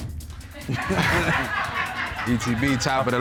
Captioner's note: all laughing